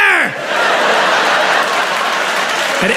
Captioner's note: crowd laughs